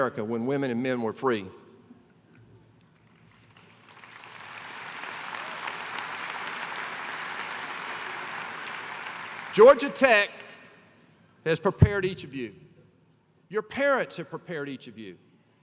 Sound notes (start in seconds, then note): 3.0 applause